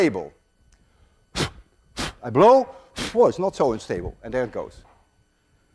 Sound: blows

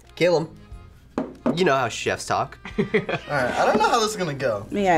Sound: laughs

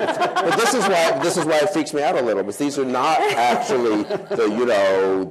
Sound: laughter

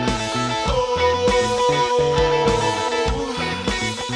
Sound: ghost sounds

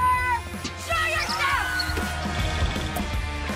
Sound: screaming

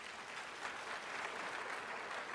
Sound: applause

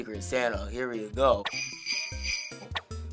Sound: bells jingling

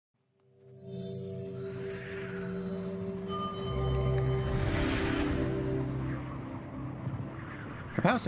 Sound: wind whooshing

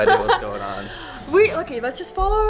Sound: she laughs

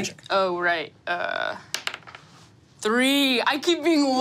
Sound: die taps table

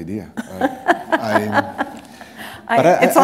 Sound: laughter

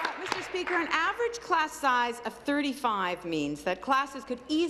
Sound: applause

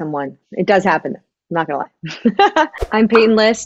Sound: laughs

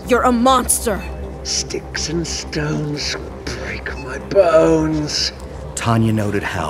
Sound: sing-song but injured

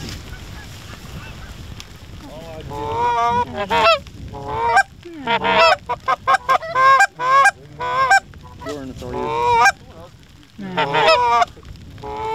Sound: goose Calling

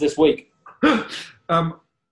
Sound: laughing

